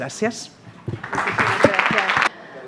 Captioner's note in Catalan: aplaudiments